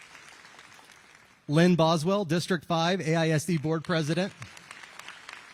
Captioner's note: applause